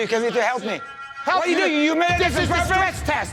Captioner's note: arguing